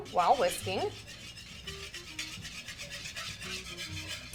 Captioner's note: whisk scraping